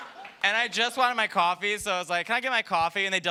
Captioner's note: laughter